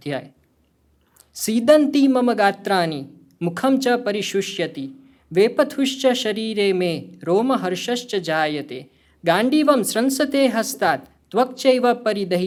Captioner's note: speaking hindi